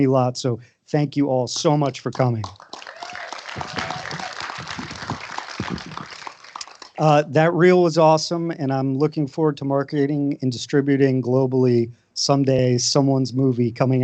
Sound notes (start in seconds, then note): 1.8 applause